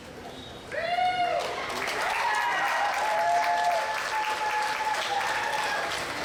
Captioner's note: applause